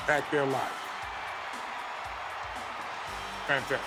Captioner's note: crowd cheering; lively music